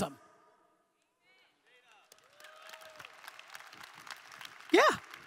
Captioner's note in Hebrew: הקהל מוחא כפיים